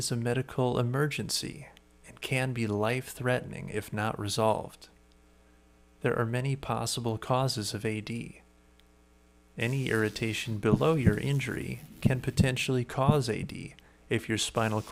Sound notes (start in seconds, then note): 10.4 steady beating